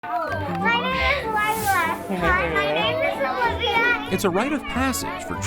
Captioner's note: children chatter and play